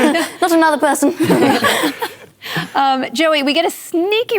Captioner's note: laughter